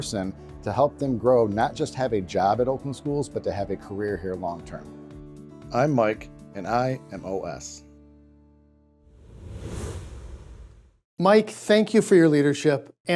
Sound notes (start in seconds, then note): 9.1 air whooshing